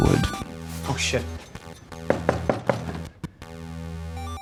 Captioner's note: door knocking